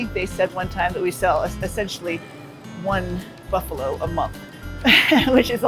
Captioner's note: laughs